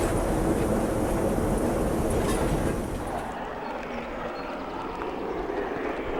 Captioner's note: train passing